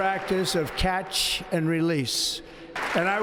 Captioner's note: applause